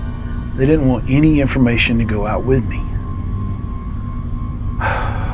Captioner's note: sighs